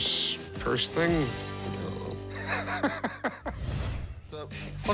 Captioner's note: laughs